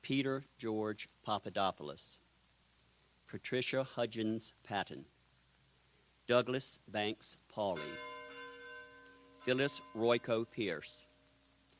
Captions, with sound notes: Peter George Papadopoulos. Patricia Hudgens Patton. Douglas Banks Pauli. (bell tolls) Phyllis Royco Pierce.